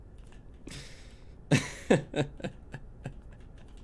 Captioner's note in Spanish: Risas desesperadas